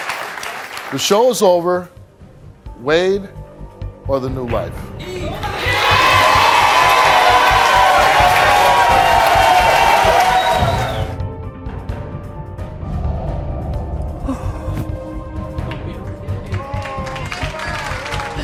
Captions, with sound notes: So, the show is over. Wade, or the new life. (audience cheering) - It'll be okay.